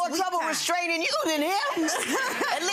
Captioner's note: laughing